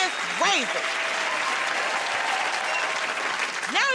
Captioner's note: cheers and applause